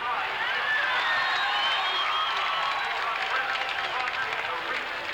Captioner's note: crowd applauds and cheers